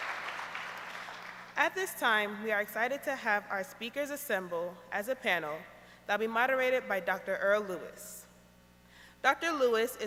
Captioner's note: applause